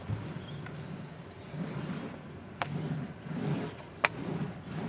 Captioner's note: paint roller rumbles